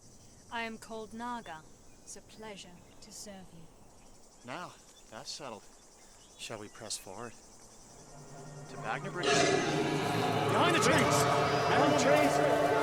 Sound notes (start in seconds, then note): 8.0 dragon roars